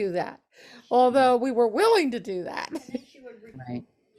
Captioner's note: laughs